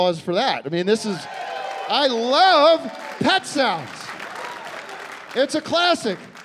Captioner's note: cheering and applause